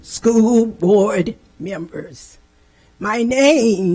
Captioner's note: none